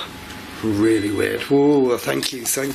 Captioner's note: machine beeping